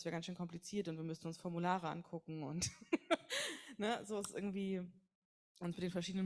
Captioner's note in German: lacht